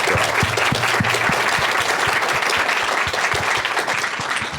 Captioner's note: applause